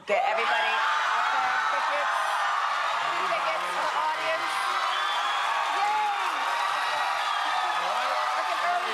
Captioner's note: cheers and applause